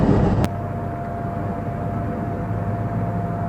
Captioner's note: engine, electric fan, light wind sounds